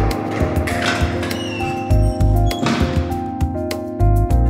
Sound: door opening, slamming shut

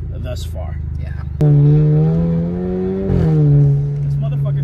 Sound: engine revving

